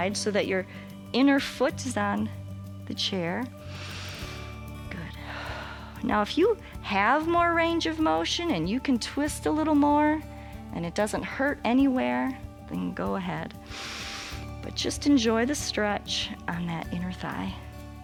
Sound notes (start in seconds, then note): 3.6 inhales; 3.6 exhales; 13.6 inhales